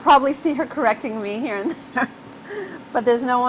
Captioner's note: laughter